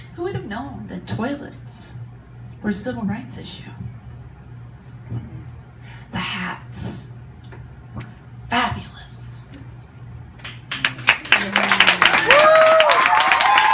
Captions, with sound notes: Who would have known that toilets were a civil rights issue? The hats were fabulous. (audience cheers)